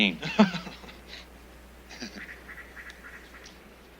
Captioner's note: laughs